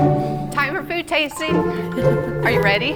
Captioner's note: laughing